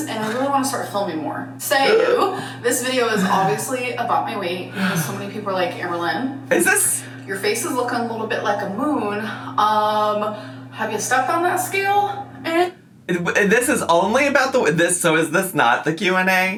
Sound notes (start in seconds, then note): 1.9 groaning; 4.8 sighing